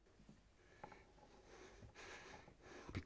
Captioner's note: man at Door breathing heavily